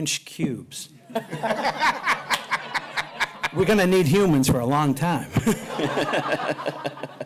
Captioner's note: laughter; laughter